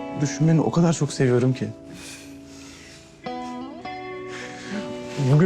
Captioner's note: lightly chuckles